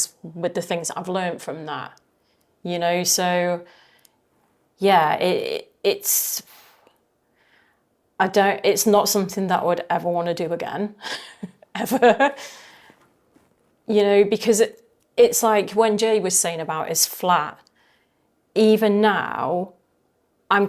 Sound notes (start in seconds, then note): 11.0 laughing